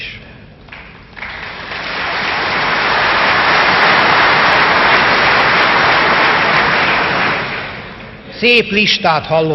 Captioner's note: applause